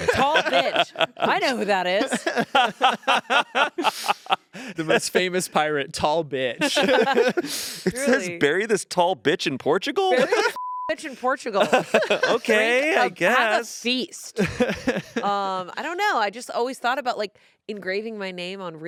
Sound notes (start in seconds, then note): 2.1 group laughing; 10.5 beep